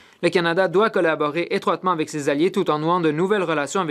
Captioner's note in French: voix de l'interprète